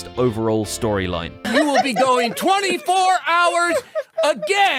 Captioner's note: crowd laughing; shouting